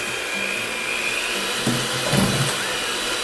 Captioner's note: mixer whirs